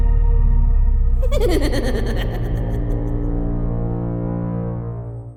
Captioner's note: person cackling